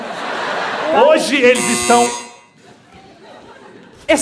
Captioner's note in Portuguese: imita francês; campainha